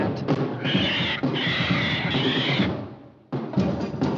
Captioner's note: parrot squawks